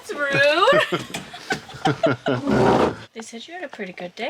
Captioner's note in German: lachen